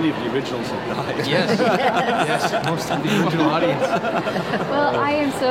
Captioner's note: laughs